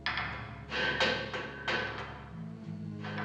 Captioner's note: Borular çıngırak